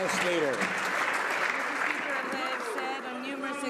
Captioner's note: some Applause